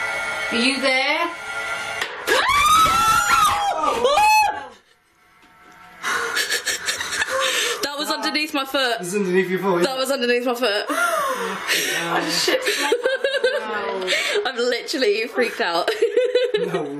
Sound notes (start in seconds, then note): 2.2 loud banging; 2.2 screaming; 6.2 laughing